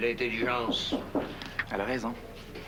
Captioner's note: On frappe à la porte